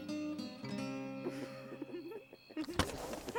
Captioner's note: Duckman and Courtney laughing